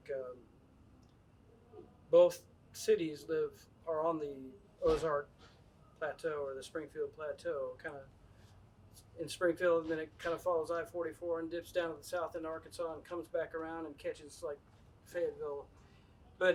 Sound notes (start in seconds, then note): none